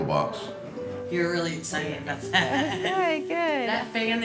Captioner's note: laughs